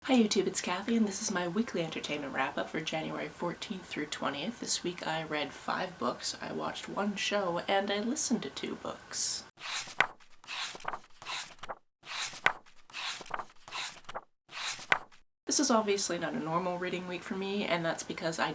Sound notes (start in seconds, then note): 9.6 pages turning